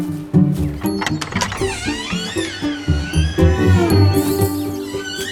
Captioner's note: door squeaking; door creaks shut